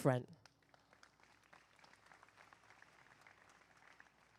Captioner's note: applause